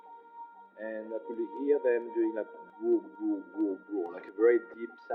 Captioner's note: buitenaardse geluiden maken